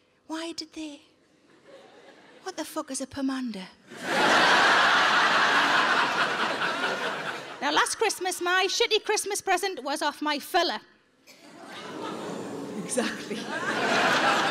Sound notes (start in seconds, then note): 3.9 audience laughing